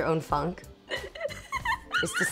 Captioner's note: laughs